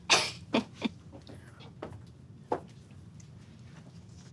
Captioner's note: laughs